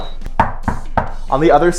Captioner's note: knocking